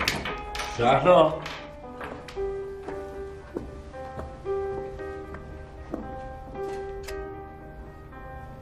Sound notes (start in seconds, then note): 2.7 cinematic music; 7.0 light switch